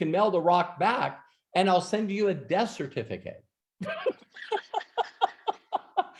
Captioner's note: laughs